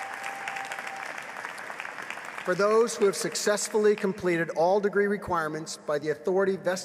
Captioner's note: applause